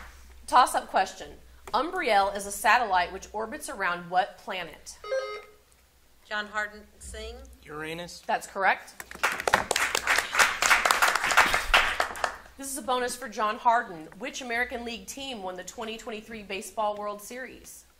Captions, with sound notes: Tossup question. Umbriel is a satellite which orbits around what planet? (buzzer sounding) - John Hardin, Singh. - Uranus. - That's correct. (audience applauding) This is a bonus for John Hardin. Which American League team won the 2023 baseball World Series.